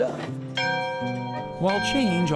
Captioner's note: bright music; bells dinging